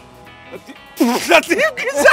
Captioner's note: Breaks Laughter